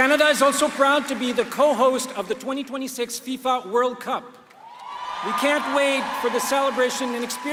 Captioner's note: applause